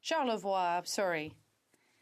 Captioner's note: speaking in French